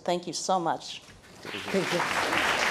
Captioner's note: applause